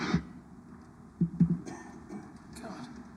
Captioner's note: coughing